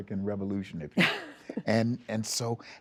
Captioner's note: laughter